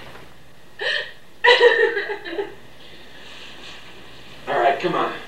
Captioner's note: Rachel sobbing